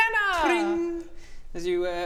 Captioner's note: tring!